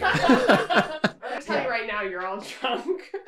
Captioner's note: group laughing